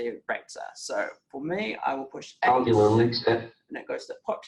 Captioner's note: JAWS speaking